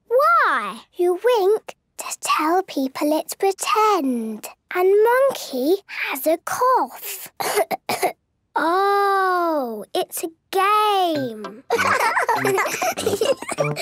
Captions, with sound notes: - Why? - You wink to tell people it's pretend. And Monkey has a cough! (pretending to cough) - Oh! It's a game! (laughs)